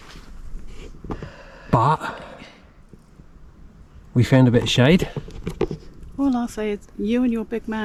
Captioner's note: laughs